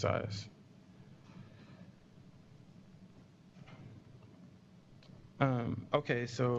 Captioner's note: pause